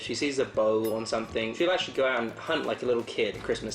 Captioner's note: bell dinging